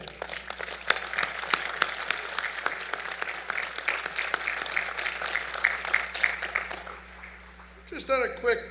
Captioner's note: applause